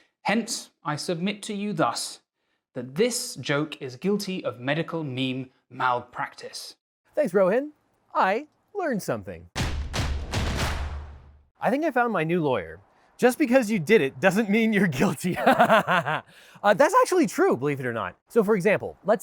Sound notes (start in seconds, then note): 9.6 drums beat; 15.0 laughs